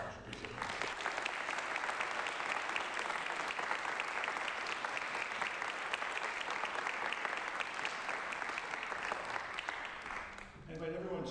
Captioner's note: applause